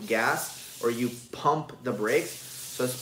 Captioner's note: faucet water splashing